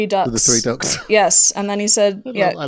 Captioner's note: laughing